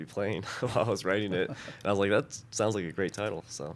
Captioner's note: laughter